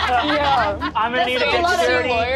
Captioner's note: all laugh